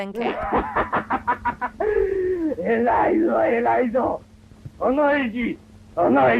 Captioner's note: speaking in foreign language